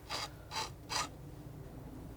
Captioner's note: scratching